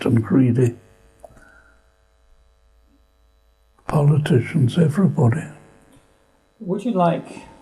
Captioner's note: pauses for 3 seconds